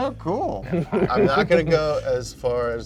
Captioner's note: laughing softly